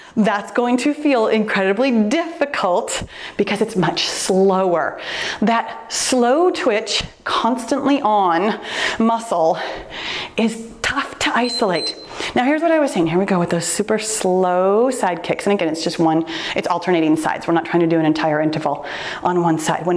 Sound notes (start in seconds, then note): 11.3 timer beeps